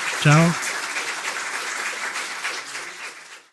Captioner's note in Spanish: Aplausos